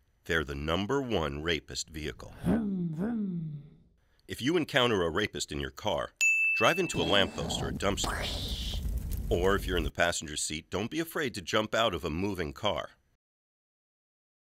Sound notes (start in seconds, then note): 2.7 voiceover; 6.2 bell dings